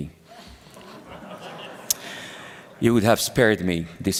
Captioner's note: laughter